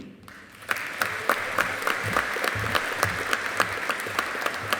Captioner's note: audience applauding